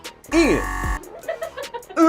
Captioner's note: buzzer buzzes; crew member laughs